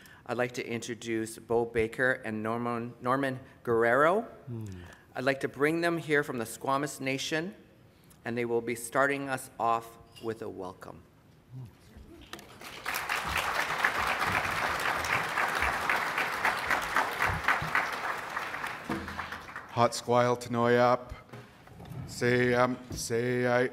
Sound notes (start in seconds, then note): 12.4 applause